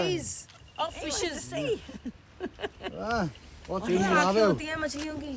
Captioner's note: laughs